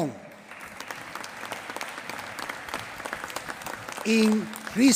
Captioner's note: applause